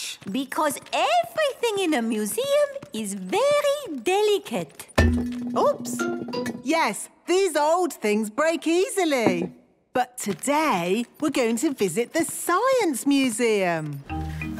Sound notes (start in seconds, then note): none